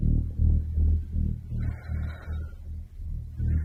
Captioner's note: exhales